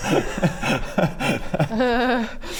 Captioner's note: mocking laugh